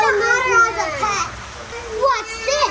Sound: crying

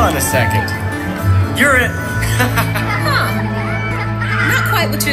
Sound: children laughing

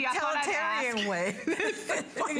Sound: laughter

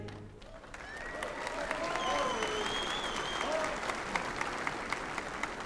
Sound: applause

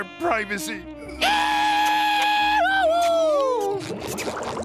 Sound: cheering

